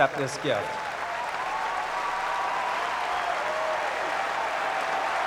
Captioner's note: cheering and applause